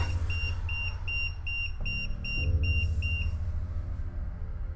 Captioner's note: beeping